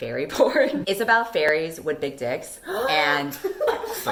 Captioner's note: laughter; dramatic gasp